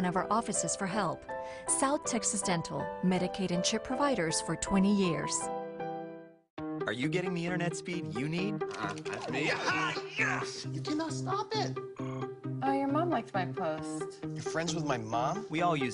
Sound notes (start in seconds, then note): 9.1 excited yelling